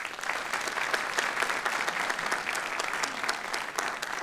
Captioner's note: applause